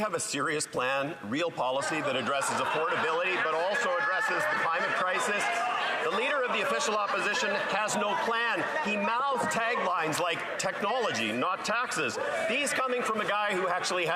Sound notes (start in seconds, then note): 3.3 applause